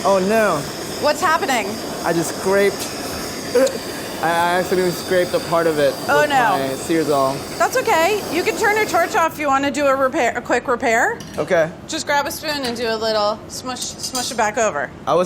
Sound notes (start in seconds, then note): 3.6 laughs